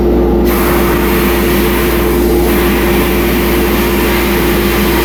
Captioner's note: sandblaster spraying